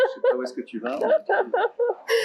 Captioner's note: laughs loudly